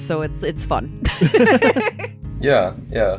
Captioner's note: laugh